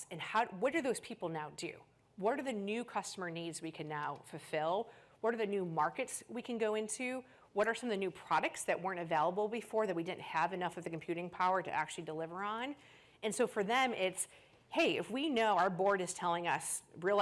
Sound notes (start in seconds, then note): none